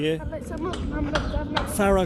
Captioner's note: speaking in foreign language